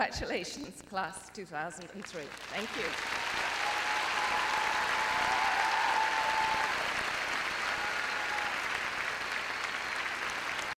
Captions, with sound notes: Congratulations, Class of [applause] 2003. Thank you. [cheering and applause]